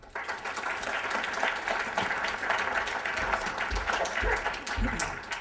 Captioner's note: applause